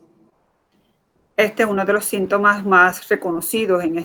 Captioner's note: speaking in Foreign Language